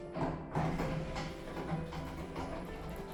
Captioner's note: sound of the lift doors opening